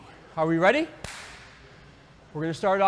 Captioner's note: clap